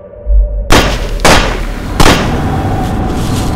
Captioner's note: gun shooting repeated